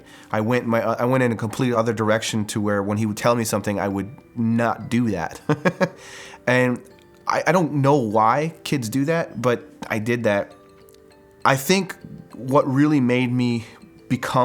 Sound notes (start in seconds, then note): 5.4 chuckles